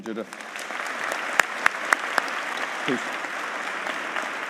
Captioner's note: audience applauding